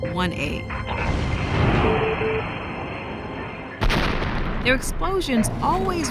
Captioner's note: explosions